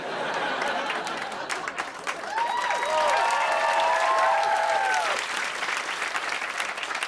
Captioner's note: laughter; cheers and applause